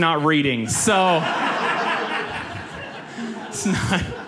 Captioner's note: audience laughs